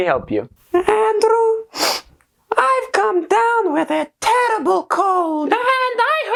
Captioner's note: sniff